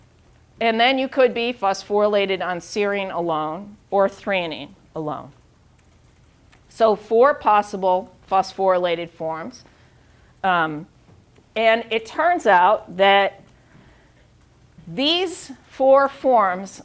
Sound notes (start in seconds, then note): none